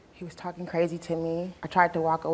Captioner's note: none